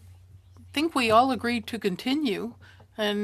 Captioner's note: speaking French